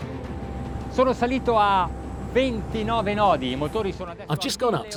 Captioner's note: speaking in foreign language